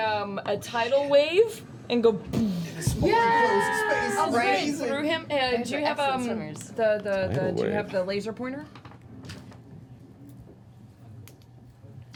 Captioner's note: bwoosh